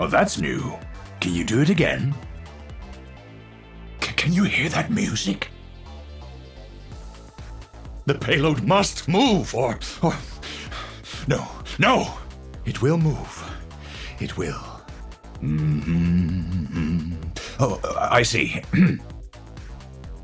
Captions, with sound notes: Oh, that's new. Can you do it again? C-can you hear that music? The payload must move or, or... No, no! It will move. It will. (humming) Oh, I see.